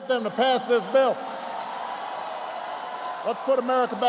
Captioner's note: applause